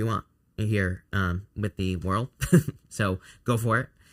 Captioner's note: chuckles